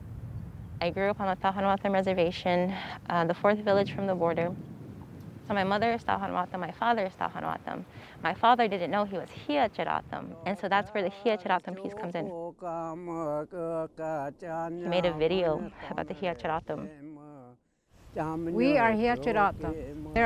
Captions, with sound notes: I grew up on a Tohono O'odham reservation, the fourth village from the border. So my mother was Tohono O'odham, my father was Tohono O'odham. My father didn't know he was Hia-Ced O'odham, and so that's where the Hia-Ced O'odham peace comes in. (native chanting) He made a video about the Hia-Ced O'odham. (chanting continues) - We are Hia-Ced O'odham.